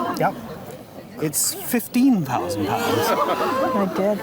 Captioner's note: crowd gasps